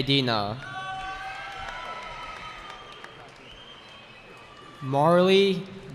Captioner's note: cheering